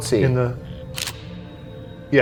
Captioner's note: camera clicks